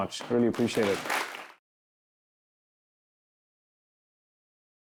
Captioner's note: applause